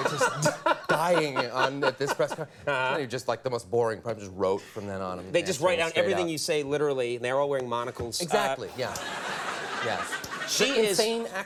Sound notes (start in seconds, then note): 8.8 audience laughs